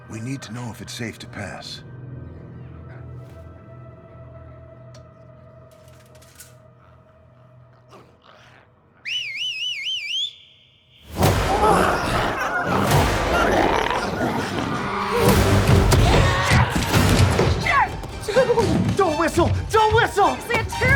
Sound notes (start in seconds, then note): 2.9 eerie music; 9.0 Darlus whistles; 11.0 dramatic music; 11.1 glowzies growling